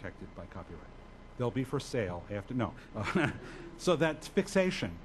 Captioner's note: laughs